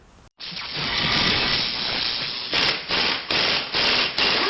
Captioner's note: drilling sounds